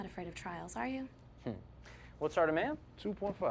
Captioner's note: scoffs